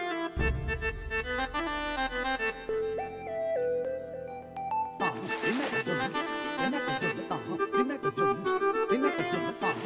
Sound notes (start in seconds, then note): 5.0 water splashes